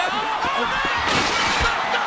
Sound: glass breaks

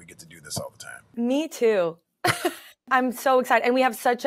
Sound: chuckles

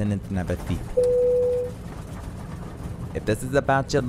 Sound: call button dings

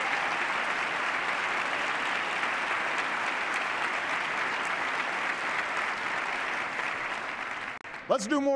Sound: applause

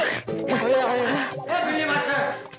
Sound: sighs

